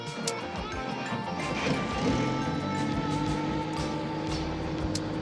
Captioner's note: helicopter whirring